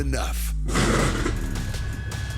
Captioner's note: crash